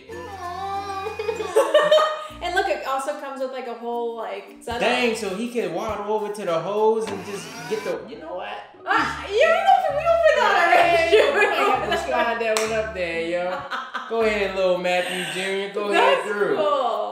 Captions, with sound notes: (child giggling) (laughter) - And look, it also comes with like a whole like set up. - Dang, so he could waddle over to the hose and just get the, you know what? (laughter) Go ahead little Matthew Jr. Go ahead through.